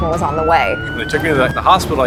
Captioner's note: sirens